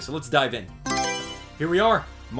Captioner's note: Mario Selection Sound